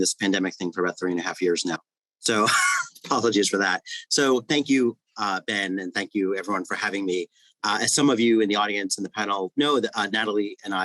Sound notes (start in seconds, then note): 2.3 laughs